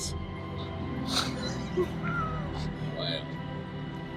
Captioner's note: laughing